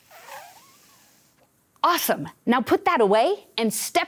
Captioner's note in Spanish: inhala profundamente